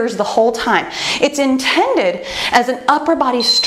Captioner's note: timer beeps